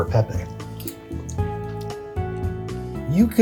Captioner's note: lively music; chewing